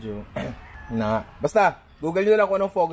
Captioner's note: clears throat